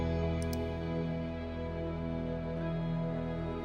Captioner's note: clicking